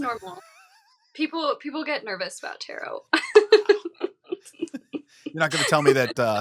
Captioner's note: chuckling